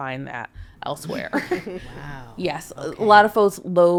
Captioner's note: podcaster chuckling